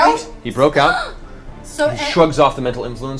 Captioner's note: gasps